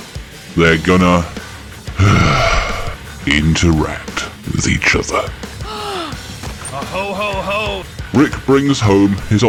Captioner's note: sigh